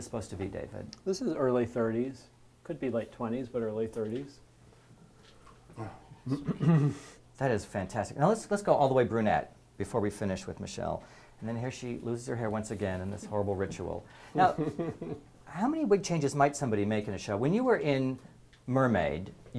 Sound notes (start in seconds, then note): 6.3 cough; 14.5 laugh